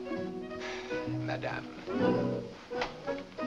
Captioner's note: sigh